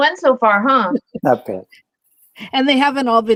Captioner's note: laughter